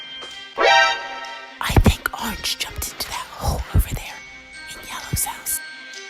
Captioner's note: whispering; still Whispering